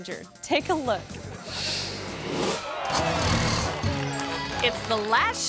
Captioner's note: onlookers gasp; screen swooshes